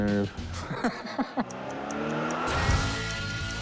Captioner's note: laughs